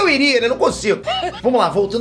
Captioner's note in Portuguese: risada